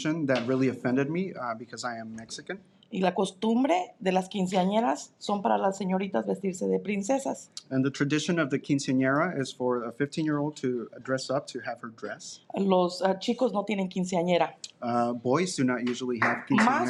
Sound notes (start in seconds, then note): 3.3 speaking in Spanish; 12.9 speaking in Spanish